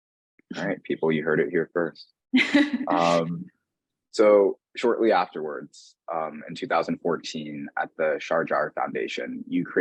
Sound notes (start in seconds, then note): 2.4 chuckling; 2.4 laughing